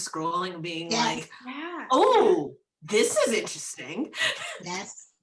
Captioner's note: laughs